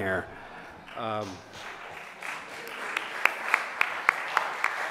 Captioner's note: audience applauses